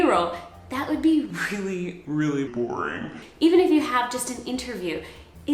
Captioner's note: said in a boring voice